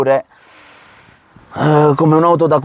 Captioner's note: sigh